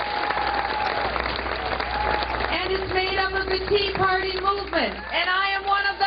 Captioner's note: cheers and applause